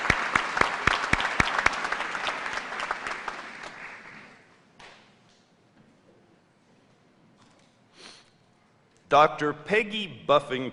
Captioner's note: applause